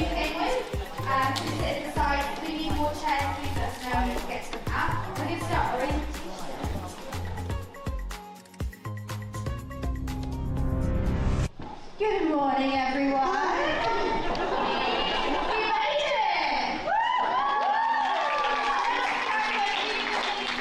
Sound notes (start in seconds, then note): 7.2 upbeat music; 10.1 dramatic music; 16.8 everyone cheering